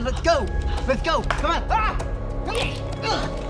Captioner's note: yelling; Wes grunting